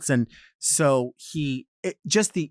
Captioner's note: none